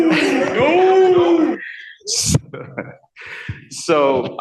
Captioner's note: shouting